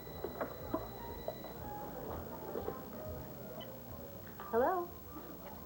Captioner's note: telephone rings